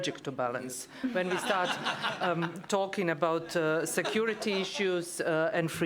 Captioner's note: laughter